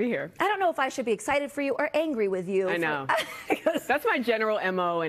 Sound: laughter

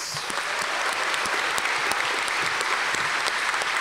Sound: audience applause

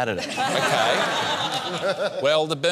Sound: laughter

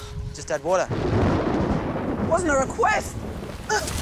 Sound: thunder rumbles

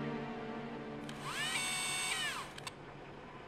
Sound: video tape whirs

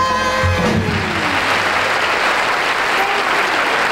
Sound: audience applauds

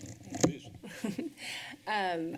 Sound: chuckle

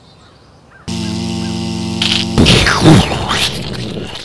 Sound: buzz; explosion; crunch

